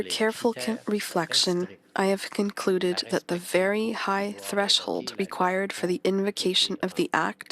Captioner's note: speaking French